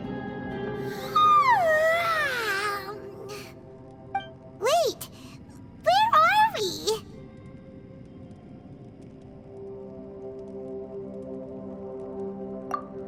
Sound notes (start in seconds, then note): 0.9 yawn